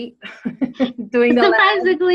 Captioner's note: chuckles